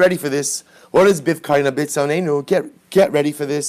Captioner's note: Hebrew